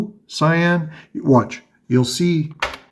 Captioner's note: none